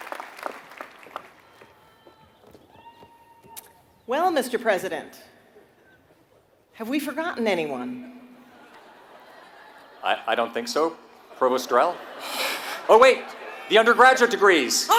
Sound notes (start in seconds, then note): 0.0 applause; 8.5 laugh